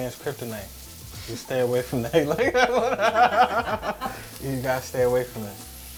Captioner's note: laughs